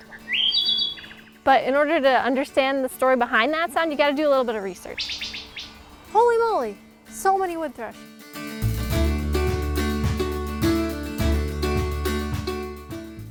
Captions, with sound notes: [thrush sings] But in order to understand the story behind that sound, you got to do a little bit of research. [bird call] Holy moly. So many wood thrush! [folk music plays]